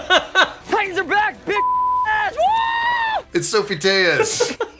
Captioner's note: beeps